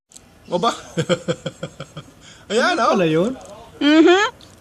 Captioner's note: laughs